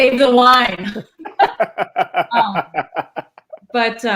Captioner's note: laughter